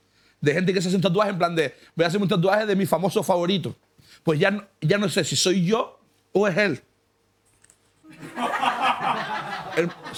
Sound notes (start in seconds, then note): 8.0 laughter